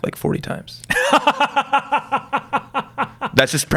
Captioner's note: laughs